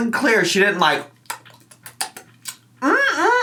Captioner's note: imitates exaggerated chewing